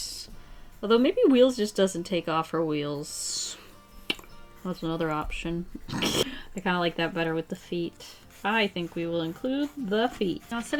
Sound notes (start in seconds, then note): 5.8 laughs